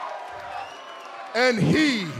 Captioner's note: cheers and applause